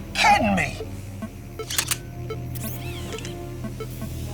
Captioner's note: game beeping